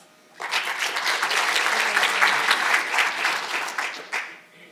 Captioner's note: audience applauding